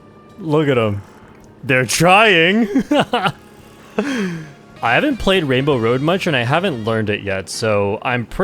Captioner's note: laughs